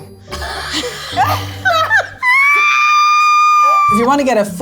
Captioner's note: all laughing